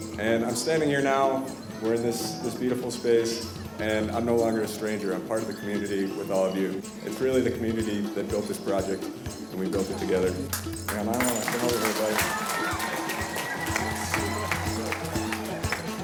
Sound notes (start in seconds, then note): 10.4 audience clapping